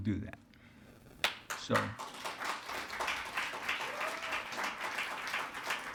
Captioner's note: attendees applauding